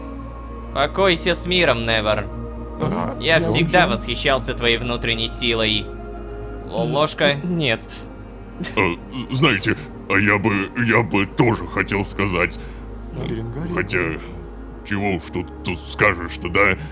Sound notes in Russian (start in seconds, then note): 2.8 удивлённое бормотание; 13.1 удивлённое бормотание